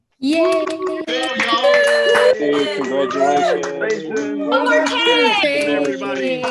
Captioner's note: faculty staff and academic leaders cheer